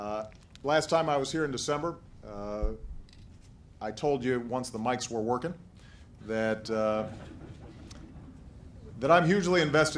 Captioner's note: laughter